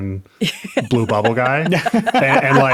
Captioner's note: laughing